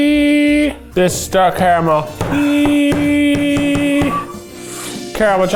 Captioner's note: banging